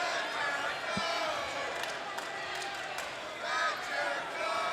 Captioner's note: jericho asshole chants